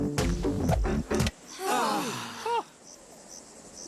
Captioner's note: all gasp